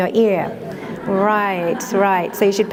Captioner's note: laughter